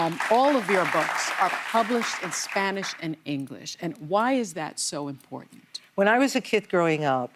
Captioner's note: applause